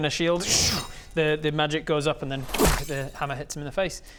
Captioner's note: boof